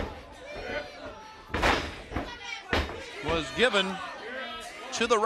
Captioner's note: crowd cheering